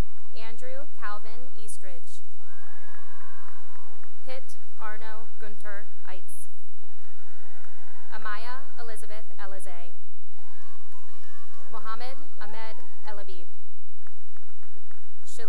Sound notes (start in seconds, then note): 2.3 cheering and applause; 6.1 cheering and applause; 9.8 cheering and applause; 13.9 applause